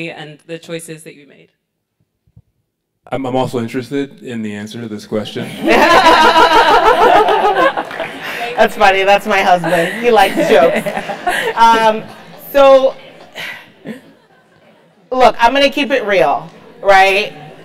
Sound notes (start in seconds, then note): 8.3 laugh